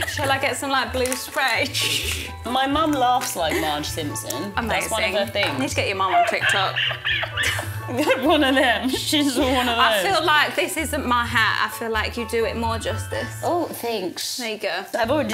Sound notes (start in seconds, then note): 6.1 squeals